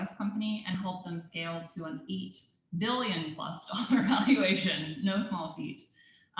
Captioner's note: laugh